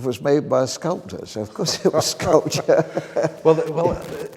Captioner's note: laughs